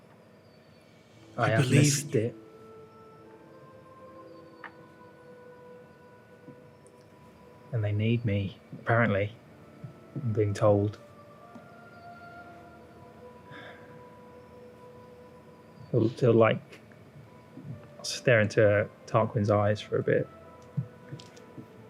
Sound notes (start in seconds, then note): 2.8 Tarquin, whispers